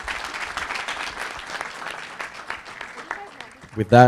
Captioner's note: audience applauding